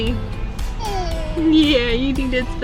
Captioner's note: baby girl cooing